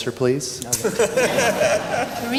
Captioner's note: laughter